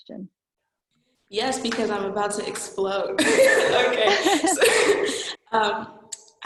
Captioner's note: laughing